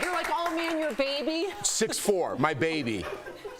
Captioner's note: laughter